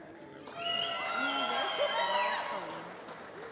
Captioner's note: applause